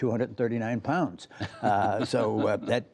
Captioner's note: laughter